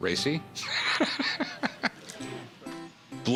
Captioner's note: laughter